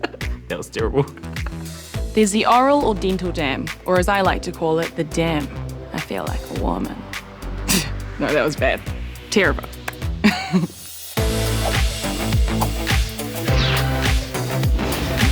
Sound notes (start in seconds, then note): 0.8 laughs; 10.2 chuckles; 10.2 laughs; 10.7 upbeat electronic music